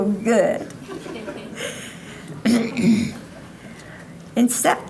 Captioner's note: audience laughing